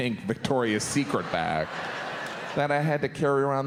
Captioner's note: audience laughs